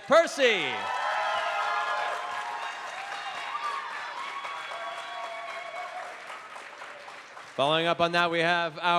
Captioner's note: cheering